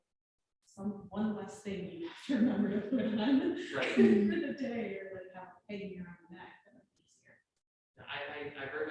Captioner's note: laughs